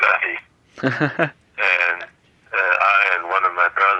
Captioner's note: laughter